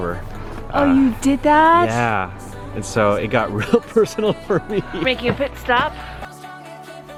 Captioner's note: laughing